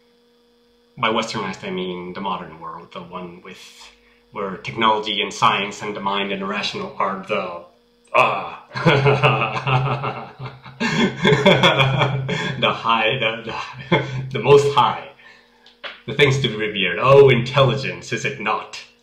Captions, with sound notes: By westernized I mean the modern world the one with where technology and science and the mind and rational part are (laughter) the most high. the things to be revered. Oh, Intelligence! Is it not